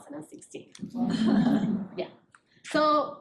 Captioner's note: audience laughing